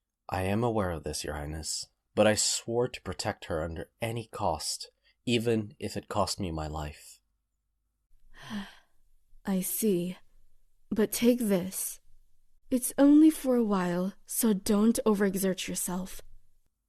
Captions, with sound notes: I am aware of this, Your Highness, but I swore to protect her under any cost, even if it costs me my life. *Sigh* I see. But take this. it’s only for a while, so don’t over-exert yourself.